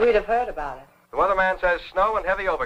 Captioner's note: radio Announcer